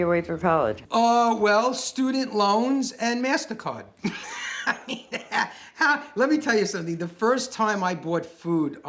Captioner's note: laughs